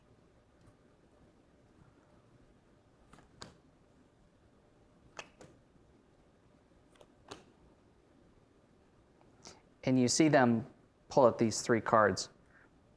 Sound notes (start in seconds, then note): 3.1 cards slapping on table